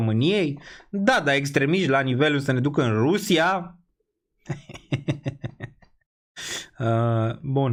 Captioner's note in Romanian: Râsete